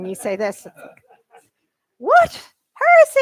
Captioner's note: laughter